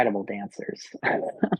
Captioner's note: chuckles